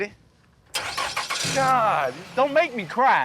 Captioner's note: car engine roaring